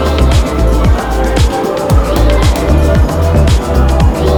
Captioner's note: laughs